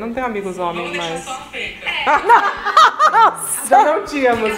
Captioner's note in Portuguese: risos